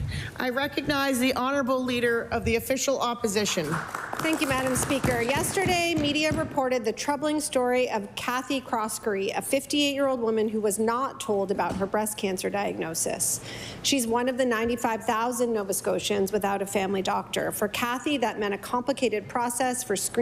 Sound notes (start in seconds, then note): 1.3 applause